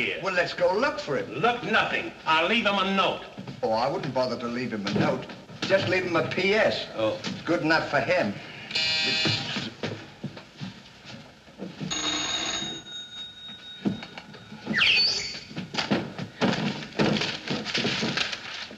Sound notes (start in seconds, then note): 8.7 buzz; 11.8 phone rings; 14.7 whistles